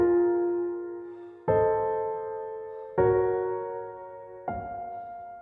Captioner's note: Andrew exhales